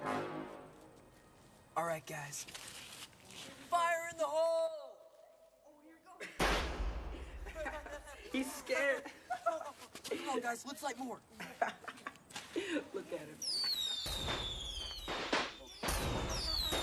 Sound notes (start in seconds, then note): 6.4 firecracker booming; 9.9 laughs; 13.4 firecrackers whistling and booming; 16.3 laughter